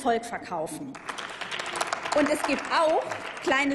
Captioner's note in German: Applaus